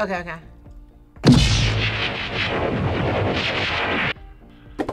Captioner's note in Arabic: أصوات ليزر